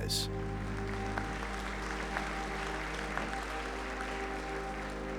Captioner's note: cheers and applause